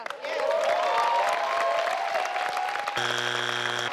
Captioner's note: audience cheers; buzz